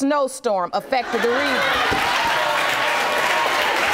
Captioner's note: audience applauding